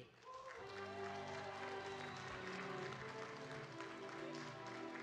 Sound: audience cheering and clapping; lively music

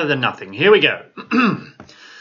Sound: clears throat

